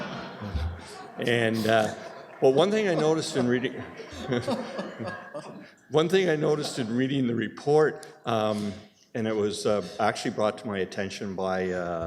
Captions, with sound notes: [laughter] And, well one thing I noticed in reading [laughing], one thing I noticed in reading the report, and it was actually brought to